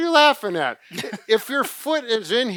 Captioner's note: laughs